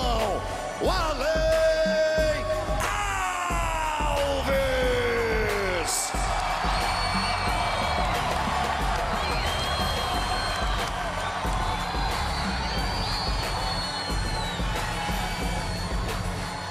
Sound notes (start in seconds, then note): 2.5 speaking foreign language